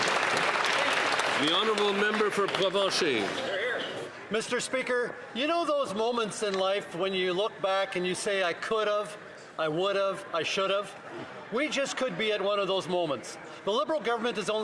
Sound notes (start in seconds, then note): 3.4 applause